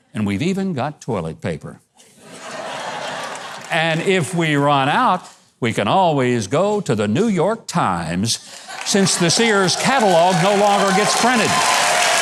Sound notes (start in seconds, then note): 2.2 audience laughs